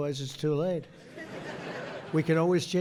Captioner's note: laughter